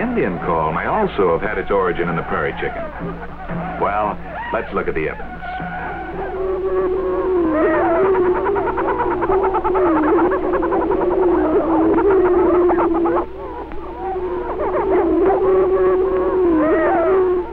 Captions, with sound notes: may also have had its origin in the prairie chicken. Well, let's look at the evidence. (prairie chicken calling)